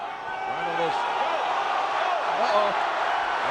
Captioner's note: crowd stirs